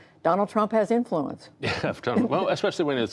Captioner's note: laughter